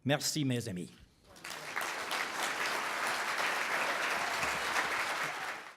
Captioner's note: applause